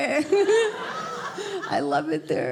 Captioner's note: audience laughing